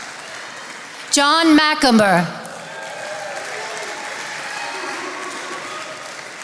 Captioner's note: attendees applauding